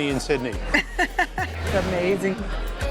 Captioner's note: laughs